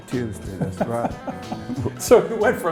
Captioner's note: laughing